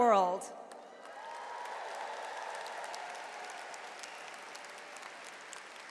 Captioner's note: audience cheers and applauds